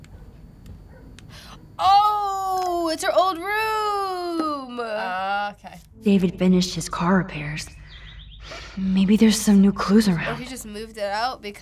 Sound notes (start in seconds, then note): 1.7 gasps